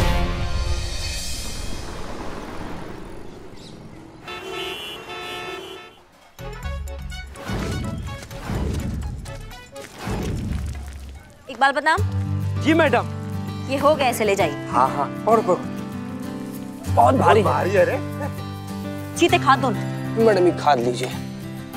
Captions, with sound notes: [traffic noises] - Iqbal, Badnaam. - Yes, madam? - These are done, you can take them. - Yes, hold them. - Oh, it's heavy. - Very. - Cheetah, hand me the manure. - Here's the manure, madam.